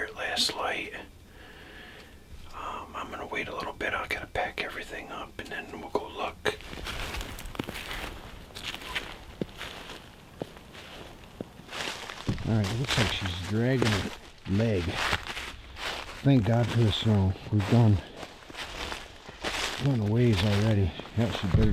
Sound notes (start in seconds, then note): 7.5 snow and leaves crunching